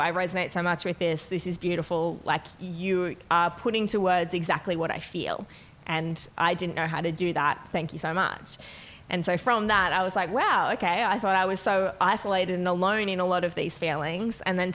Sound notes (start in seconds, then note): none